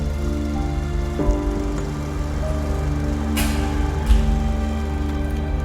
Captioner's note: somber music; projector rattling; projector clicks